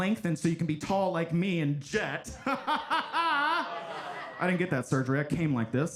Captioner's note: laughs